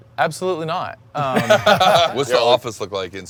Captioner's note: they laugh